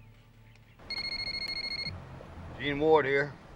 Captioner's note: phone ringing